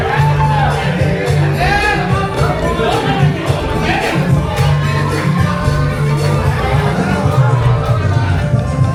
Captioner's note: cheering